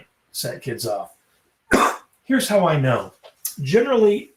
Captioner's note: coughs